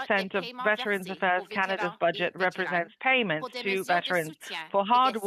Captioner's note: speaking French